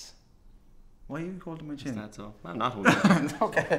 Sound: laughing

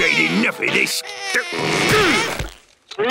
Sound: grunting

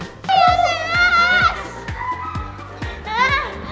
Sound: screaming

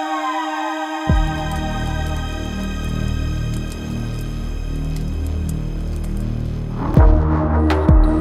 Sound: fire crackling

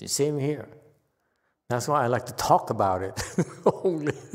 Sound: laughs

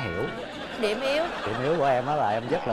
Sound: laughing

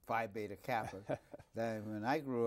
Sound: Herman laughs

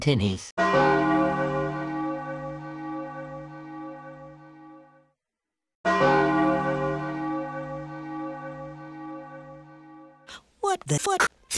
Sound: bell Chimes

